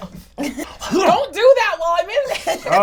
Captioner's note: gags